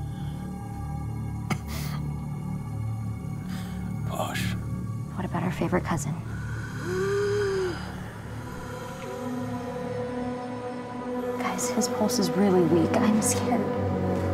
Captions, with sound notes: [ COUGHS ] Posh. What about our favorite cousin? [ WHEEZES ] Guys, his pulse is really weak. I'm scared.